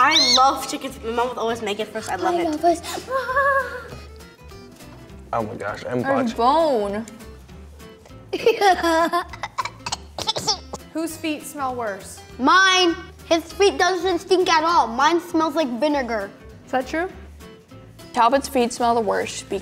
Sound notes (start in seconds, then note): 8.3 boy laughing